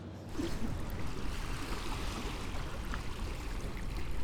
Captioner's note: water flowing